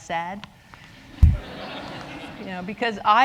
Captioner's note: laughter